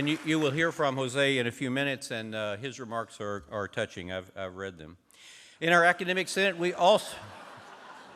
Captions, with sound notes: AND YOU, YOU WILL HEAR FROM JOSE IN A FEW MINUTES, AND HIS REMARKS ARE, ARE TOUCHING, I'VE, I'VE READ THEM. IN OUR ACADEMIC SENATE, WE... [LAUGHTER].